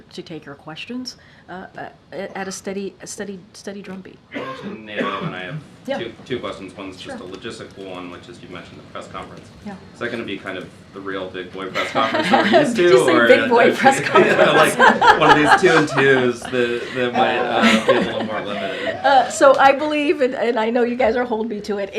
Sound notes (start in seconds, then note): 13.5 laughs; 13.7 laughter